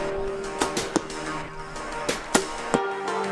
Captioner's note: pop